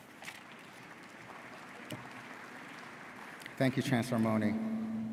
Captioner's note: audience applauding